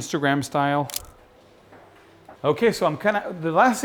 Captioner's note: camera shutter clicks